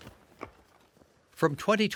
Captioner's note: digging sounds